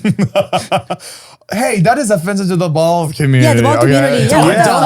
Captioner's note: laughs